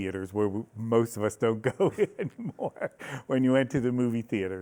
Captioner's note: laughs